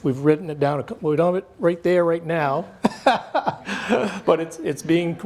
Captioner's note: laughs